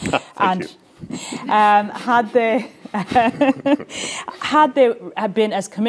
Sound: laughs

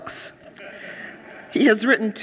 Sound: audience laughing

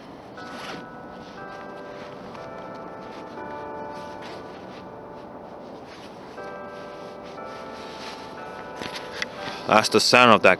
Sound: clocktower bell rings

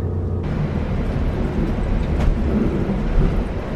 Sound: road noises from driving

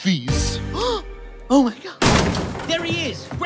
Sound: gasp

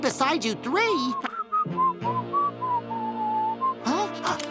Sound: whistling

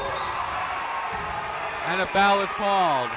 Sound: cheering

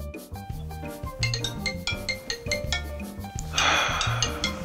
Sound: phone ringing; sighs

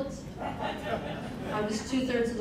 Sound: crowd laughing

